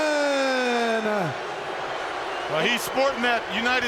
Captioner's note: crowd jeering